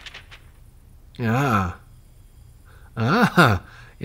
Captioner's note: sounds of paper